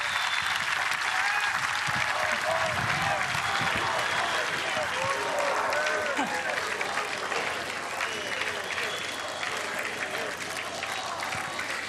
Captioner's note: applause